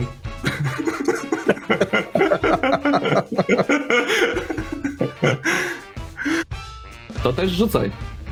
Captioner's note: laughter